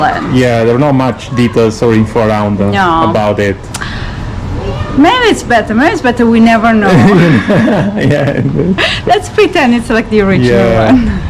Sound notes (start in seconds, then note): 6.8 laughing